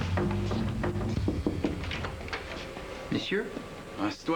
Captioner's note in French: On frappe à la porte